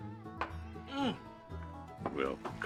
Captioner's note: Tully grunts